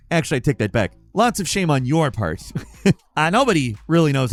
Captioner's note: chuckles